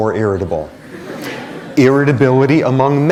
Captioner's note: laughter